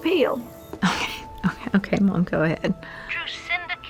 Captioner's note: chuckles